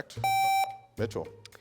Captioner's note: contestant beeping